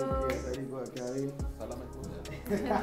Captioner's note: laughs